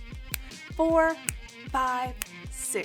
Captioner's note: snapping; snaps; snapping